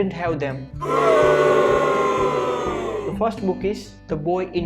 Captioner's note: crowd Booing